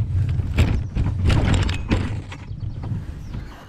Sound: birds chirping; wheels scraping

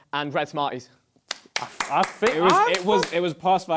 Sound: KSI clapping

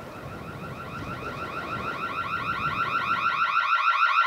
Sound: alarm blaring

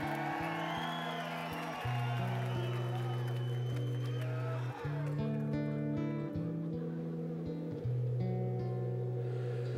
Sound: cheers and applause

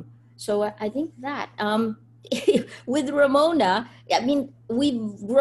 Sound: laughs

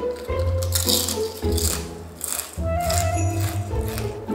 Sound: crunches

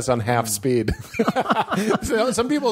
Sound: laughing

